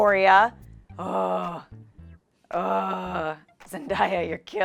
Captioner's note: groaning